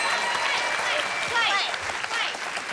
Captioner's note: ding